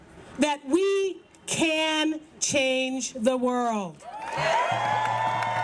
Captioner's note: cheers and applause